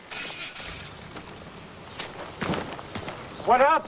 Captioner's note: starting of engine